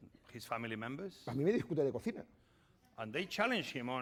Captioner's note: speaking spanish